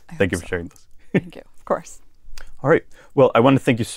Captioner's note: laugh